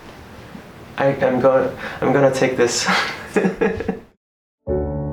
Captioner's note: laughs